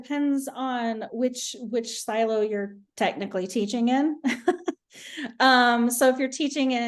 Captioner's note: chuckles